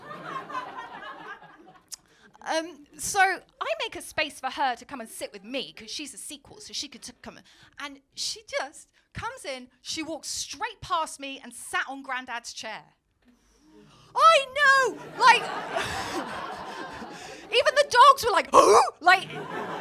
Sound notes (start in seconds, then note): 0.0 audience laughing; 13.2 audience gasp; 14.8 laughing; 18.3 dog noise; 19.2 audience laughing